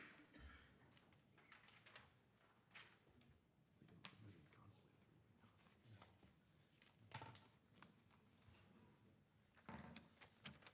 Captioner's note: speaking away from mic